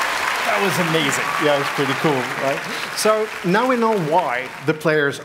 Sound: applause; cheering

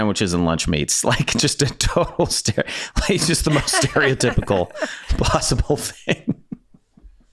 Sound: laughs

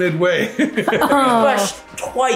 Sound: parents laughing

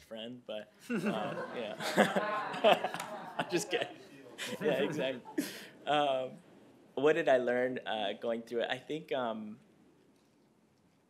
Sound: laughter

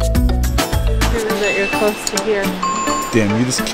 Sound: bells dinging

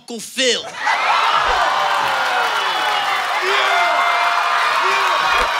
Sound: crowd laughs and applauds

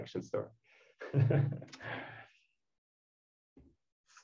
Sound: laughter

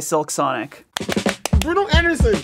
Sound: clapping hands

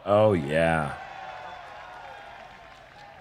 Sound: cheers

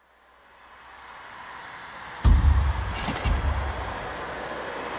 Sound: crowd cheering

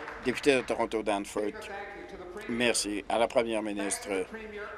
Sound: applause

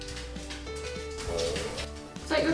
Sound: stomach rumbles

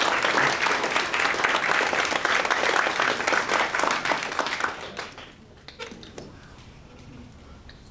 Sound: aplause

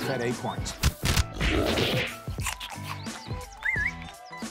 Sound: pigs grunting, chewing

